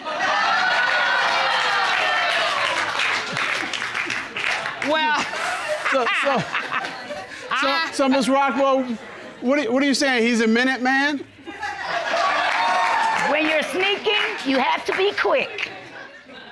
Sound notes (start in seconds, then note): 0.1 audience exclaiming, applauding; 5.8 laughs; 11.4 audience laughing